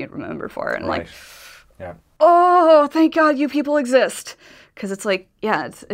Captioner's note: whinces